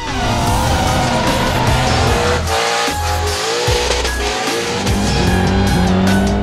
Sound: car engine revving; pleasant music

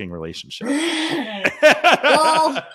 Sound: laugh

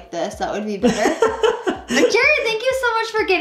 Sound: laughter

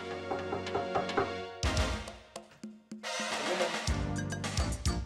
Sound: knocking

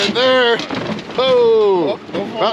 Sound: whooping

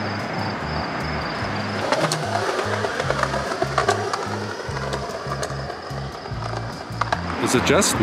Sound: skateboard wheel rolling away on sidewalk

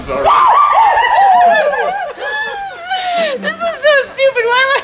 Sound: whooping laugh; laughing

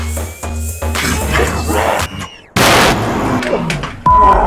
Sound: demonic voice speaks, followed by jarring sound

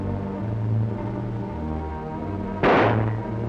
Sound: gunshot

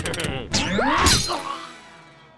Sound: laughs maniacally; screams

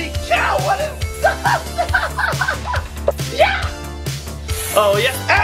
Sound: laughter

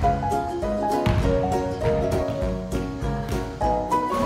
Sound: ball thuds; rim twangs

